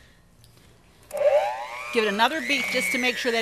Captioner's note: mixer hums